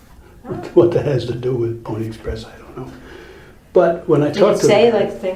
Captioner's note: chuckles